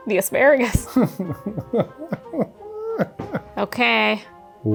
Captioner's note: laughing